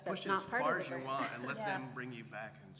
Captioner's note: laugh